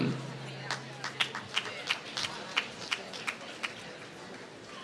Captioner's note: applause